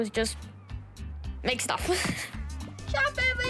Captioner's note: laughs